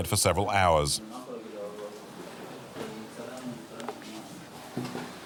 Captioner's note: Hebrew spoken audio